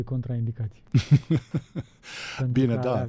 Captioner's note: laughter